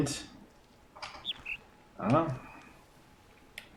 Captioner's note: bird chirps ˥ ˩